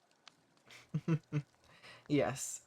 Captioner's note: chuckles